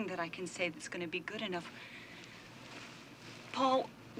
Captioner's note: breathes deeply